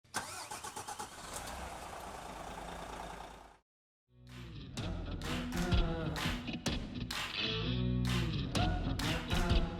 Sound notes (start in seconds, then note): 0.1 ignition turning; 0.2 engine rumbling; 4.3 steady rock music